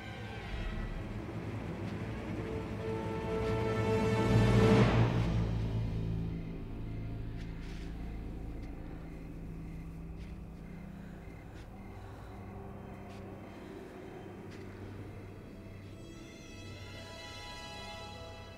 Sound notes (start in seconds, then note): 1.1 suspenseful music; 5.8 crickets chirping; 15.0 ominous music